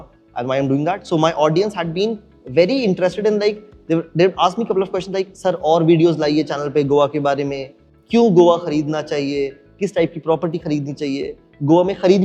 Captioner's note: in Hindi